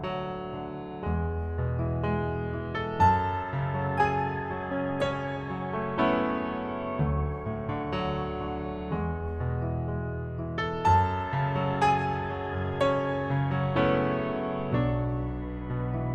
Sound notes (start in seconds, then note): none